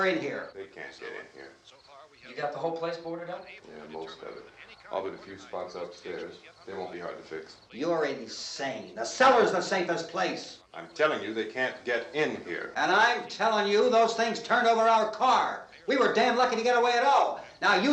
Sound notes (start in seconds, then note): none